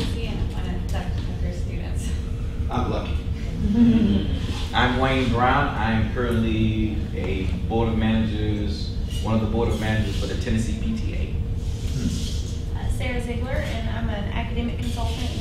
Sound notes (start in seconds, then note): 3.5 laughing